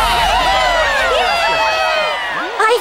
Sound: cheers from audience

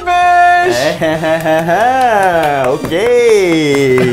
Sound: laughing

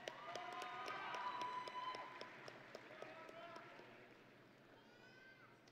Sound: audience and graduates cheering

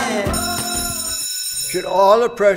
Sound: bell ringing

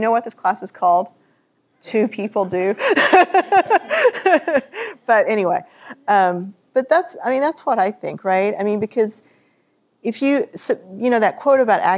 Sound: chuckles

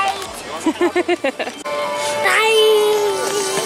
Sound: laughs

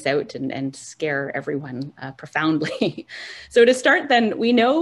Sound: giggles

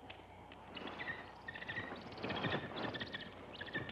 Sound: bird chirping

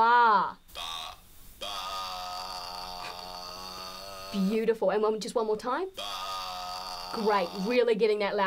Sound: makes low pitched Baa sound

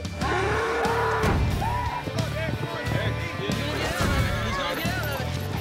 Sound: bull lowing

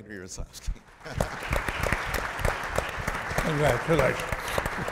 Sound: applause

